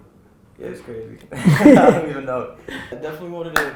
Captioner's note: group laughter